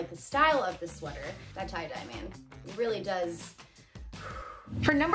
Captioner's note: exhales